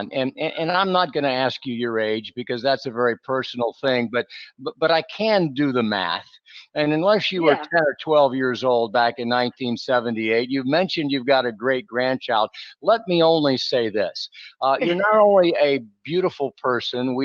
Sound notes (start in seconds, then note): 14.8 laughing